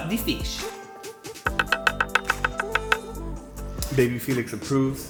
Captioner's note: knife dicing